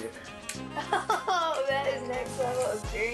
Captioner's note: laughs